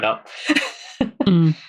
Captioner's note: laughs